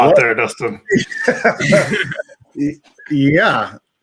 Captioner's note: all laughing